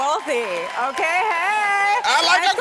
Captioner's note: audience cheering